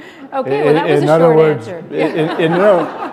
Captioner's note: laughter